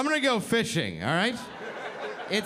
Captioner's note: audience laughing